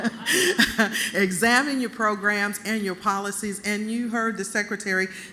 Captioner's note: laughter